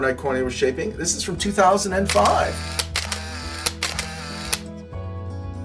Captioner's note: camera shutter noises